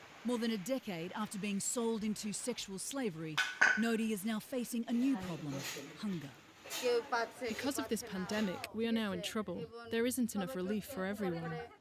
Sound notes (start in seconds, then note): 6.1 non-english speech